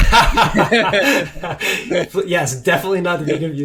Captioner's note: laugh